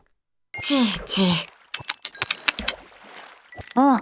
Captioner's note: clicks tongue